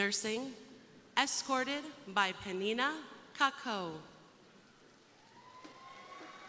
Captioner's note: crowd cheering